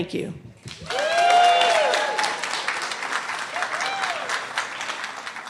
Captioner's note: cheering and clapping